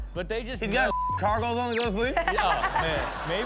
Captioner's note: beep; Chanel chuckles; audience laughs